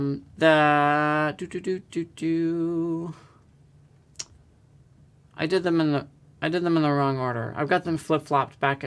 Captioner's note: hums